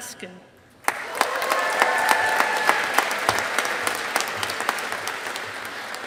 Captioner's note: audience applauding